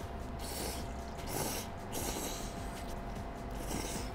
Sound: slurping!

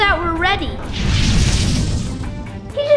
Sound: whooshing

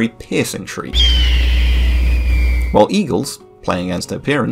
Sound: red Tailed Hawk Screech

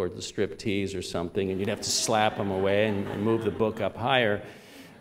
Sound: laughter

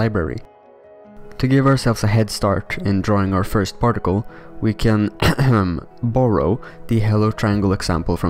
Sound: cough, cough

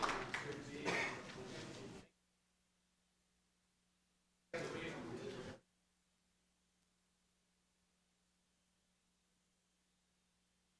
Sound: applause

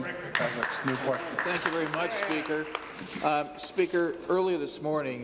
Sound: applause

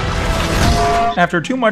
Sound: bonk

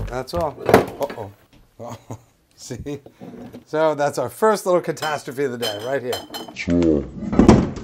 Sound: laughs

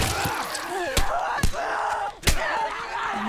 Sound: blood splatters; punches land; moaning and shrieking

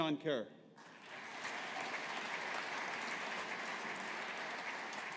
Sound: audience applauding

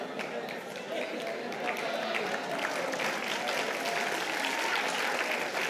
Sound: applause

